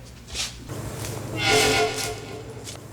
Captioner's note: teleport noise